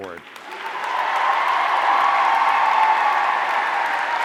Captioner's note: audience cheering